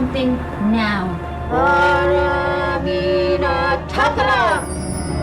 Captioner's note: speaking foreign language